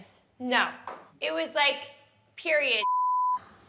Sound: beep

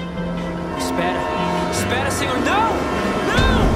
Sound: train approaching at high speed

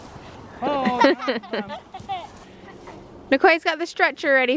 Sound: laugh

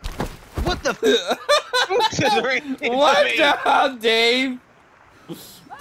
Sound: laughter

